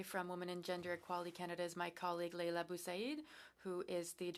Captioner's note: speaking french